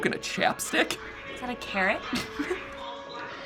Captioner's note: chuckles